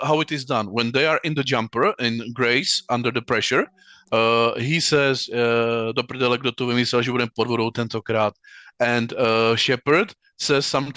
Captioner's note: speaking Czech